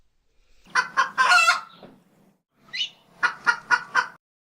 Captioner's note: rooster crows